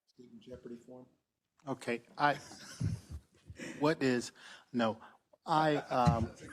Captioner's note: laugh